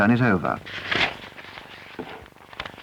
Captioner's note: paper rustles